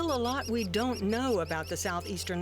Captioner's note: chirping